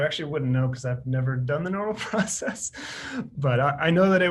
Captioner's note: laughs